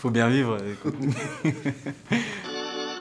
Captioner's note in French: Rires